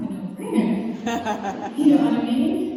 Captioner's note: crowd Laughter